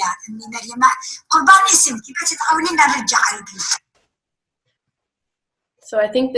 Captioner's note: woman speaking foreign language